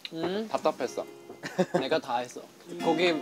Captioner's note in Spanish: Jajaja